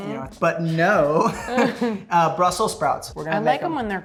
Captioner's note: laughs